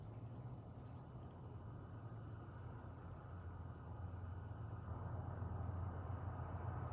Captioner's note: cars driving in distance